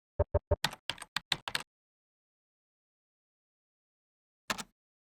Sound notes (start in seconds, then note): 0.2 typing on keyboard